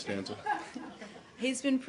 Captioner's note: laughter